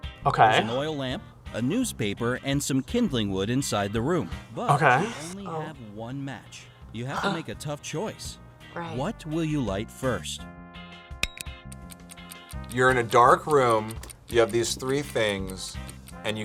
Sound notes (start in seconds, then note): 12.3 clock ticks